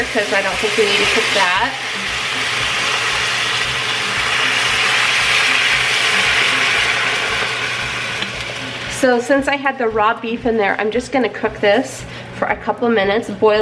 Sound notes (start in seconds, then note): 3.4 food sizzling